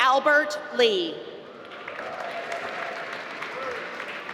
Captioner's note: applause